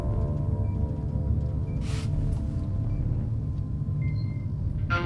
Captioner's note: machines beeping